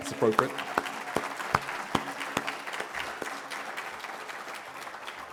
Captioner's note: applause